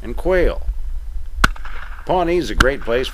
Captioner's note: bang bang